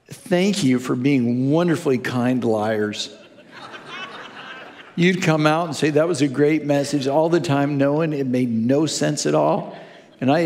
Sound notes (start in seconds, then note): 2.9 congregation laughing